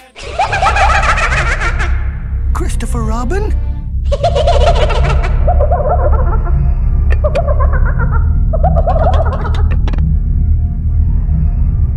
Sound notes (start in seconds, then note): 0.1 Majora's Mask Laughing; 4.0 Majora's Mask Laughing; 8.4 pot shaking